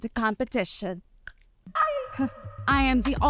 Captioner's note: tongue pop